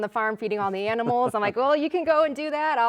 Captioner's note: chuckling